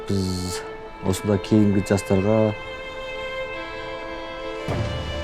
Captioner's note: man speaking Chinese: English translation on screen